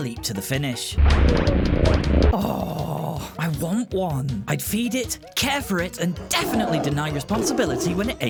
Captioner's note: purrs